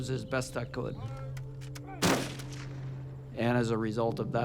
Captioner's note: rifles fire a salute